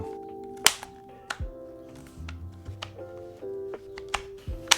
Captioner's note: buttons clicking